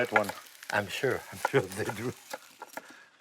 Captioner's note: chuckling